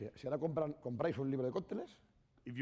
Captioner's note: speaking spanish